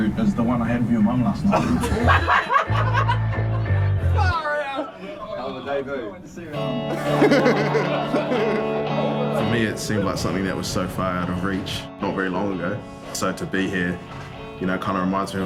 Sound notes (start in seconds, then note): 1.4 audience laughs; 6.8 laughs